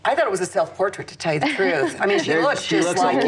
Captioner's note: laughs